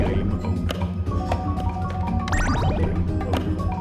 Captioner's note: slot Machine Jingles